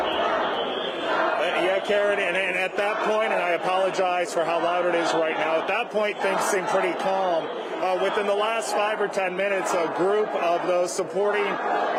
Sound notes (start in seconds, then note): 7.5 chanting